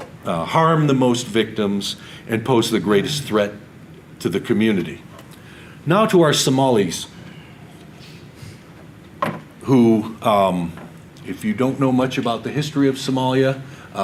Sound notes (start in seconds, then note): none